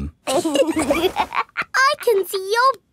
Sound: laughs

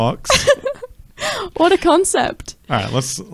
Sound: laughing

